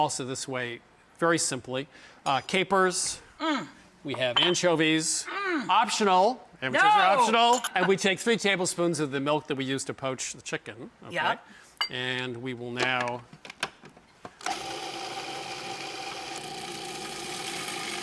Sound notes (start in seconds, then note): 14.4 machine whirs